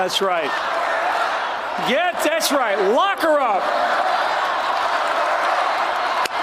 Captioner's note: crowd chanting "lock her up"